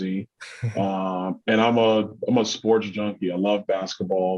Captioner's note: chuckles